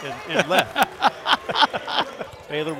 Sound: laughter

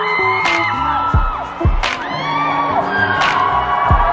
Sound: audience cheering

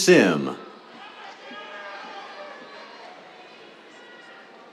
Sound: cheers

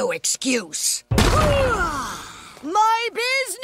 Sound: sighs

